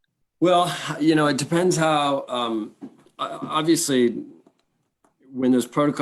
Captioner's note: sighs